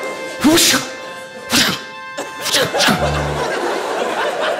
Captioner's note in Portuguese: efeitos sonoros